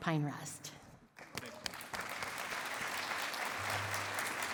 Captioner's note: applause